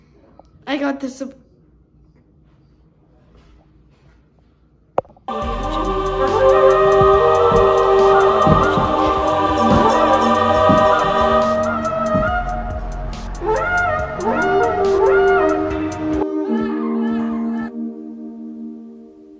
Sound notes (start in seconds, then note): 5.2 angelic music; 5.3 screaming